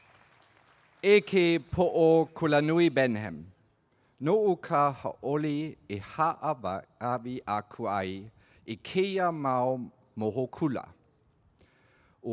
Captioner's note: speaking olelo Hawaii